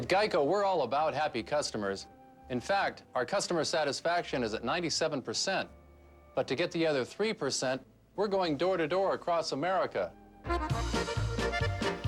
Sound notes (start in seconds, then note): none